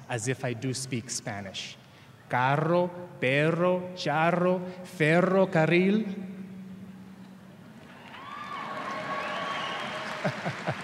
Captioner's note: applause